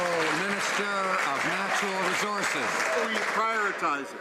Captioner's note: some Applause